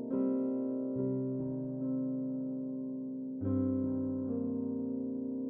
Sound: none

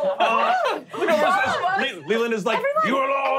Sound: squealing

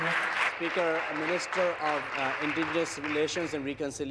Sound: applause

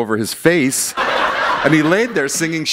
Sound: laughter

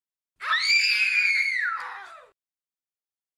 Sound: Aiden death scream

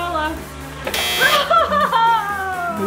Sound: buzzer buzzes; laughs

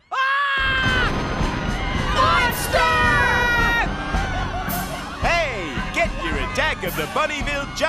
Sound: screaming

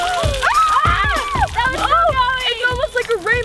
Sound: screaming

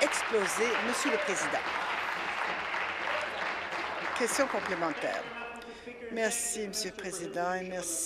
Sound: applause

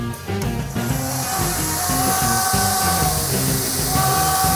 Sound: machine grinding, scraping

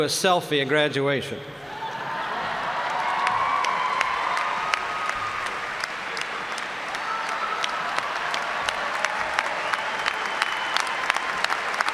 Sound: applause

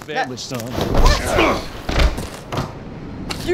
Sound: Ethan grunts, falls

